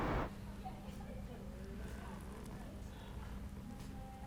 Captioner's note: staff chattering